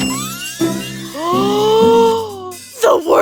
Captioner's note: gasp